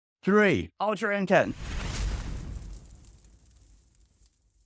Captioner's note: air whooshes